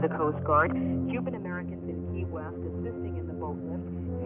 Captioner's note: archival news audio